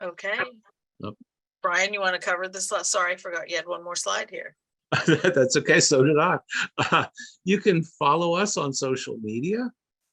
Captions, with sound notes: - Okay, Brian, you wanna cover this? Sorry, I forgot you had one more slide here. - That's okay, (laughing) so did I. You can follow us on social media.